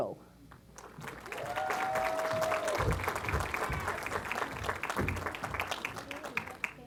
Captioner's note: applause